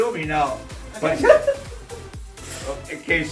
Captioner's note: laughs